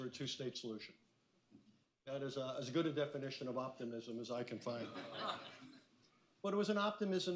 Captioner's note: laughter